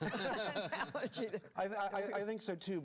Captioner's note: laughter